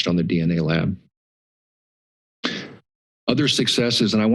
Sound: pause

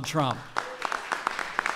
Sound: applause

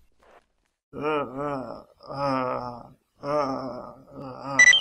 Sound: dying growls

